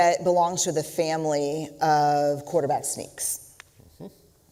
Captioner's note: none